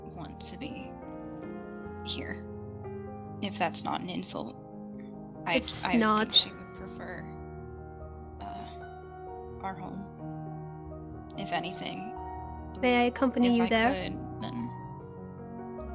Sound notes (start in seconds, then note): none